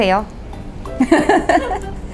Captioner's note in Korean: 웃음